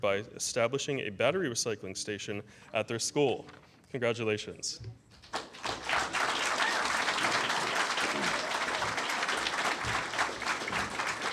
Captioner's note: applause